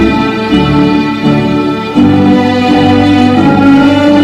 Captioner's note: none